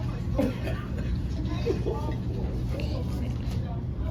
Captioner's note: observer coughs